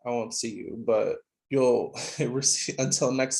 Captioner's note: laughing